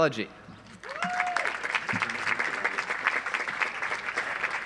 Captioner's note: audience applauds